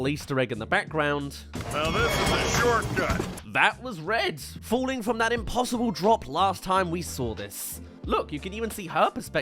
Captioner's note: screams